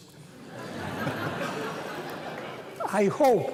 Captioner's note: laughter